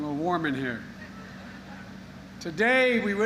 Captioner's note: laughter